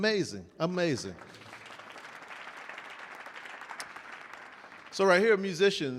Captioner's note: audience applauding